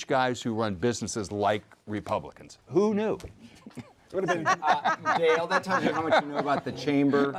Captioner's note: laughter